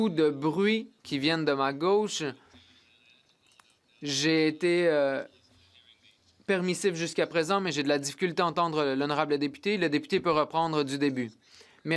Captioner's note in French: voix de l'interprète